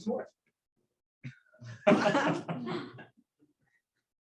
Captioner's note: laughter